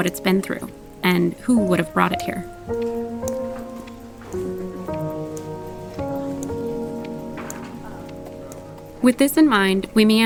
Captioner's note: footsteps on cobblestones